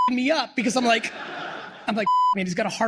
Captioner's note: beep; beep